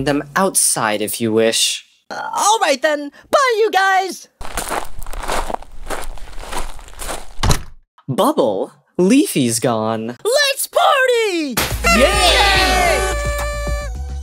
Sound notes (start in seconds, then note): 4.4 calm door slam; 4.4 walking sounds; 11.8 party horn sounds